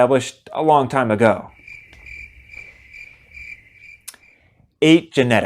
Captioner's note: cricket sounds